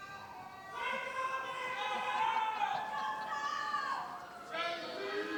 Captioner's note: indistinct screams from the audience